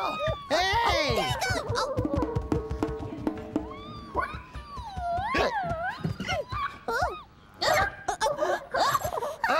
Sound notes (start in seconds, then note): 3.2 squeaking; 5.5 Lionel hiccuping; 7.1 Leona and phone hiccuping